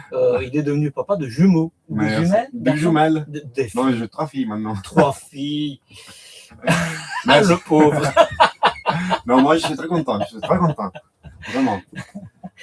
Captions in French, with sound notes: euh il est devenu papa de jumeaux ou des jumelles. Jumell trois filles maintenant trois filles. [rires] Le pauvre non moi je suis très content. Je suis très content, [rires] vraiment